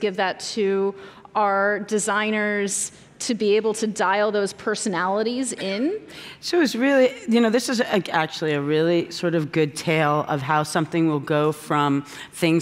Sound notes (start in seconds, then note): none